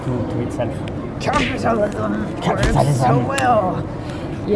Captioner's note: spooky voice